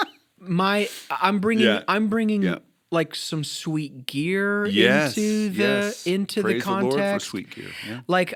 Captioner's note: chuckle